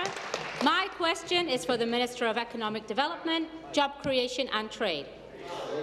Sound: some Applause

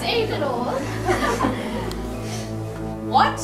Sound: nervous laughter

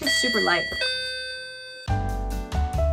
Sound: door bell

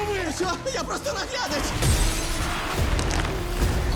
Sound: bones crack

